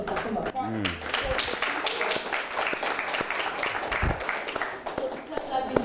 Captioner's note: applause